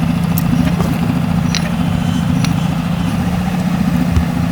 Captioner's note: boat humming